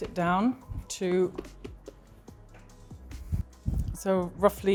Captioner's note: hands tap